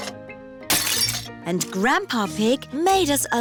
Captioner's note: shattering